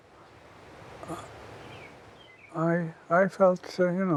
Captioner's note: birds chirping